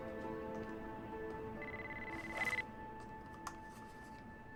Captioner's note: cell ringing